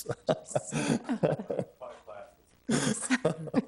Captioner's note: laughing